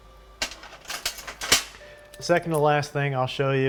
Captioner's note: metal clanging